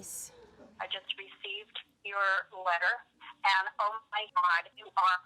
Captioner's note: on voicemail